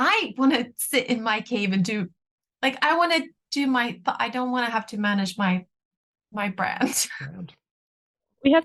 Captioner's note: laughs